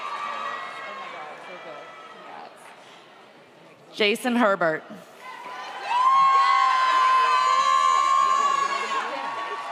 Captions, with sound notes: Jason Herbert (audience applauds)